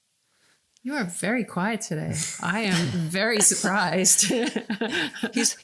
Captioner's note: laughing